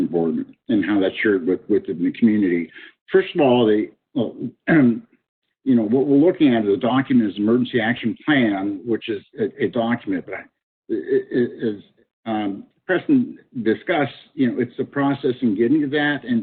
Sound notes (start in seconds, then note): 4.4 clearing throat